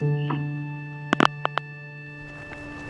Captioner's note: phone hanging up